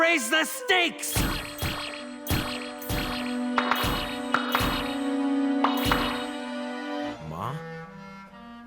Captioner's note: magical poofs